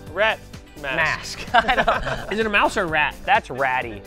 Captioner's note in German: lachen